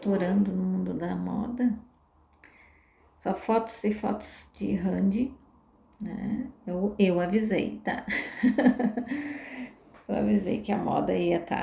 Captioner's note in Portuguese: risadas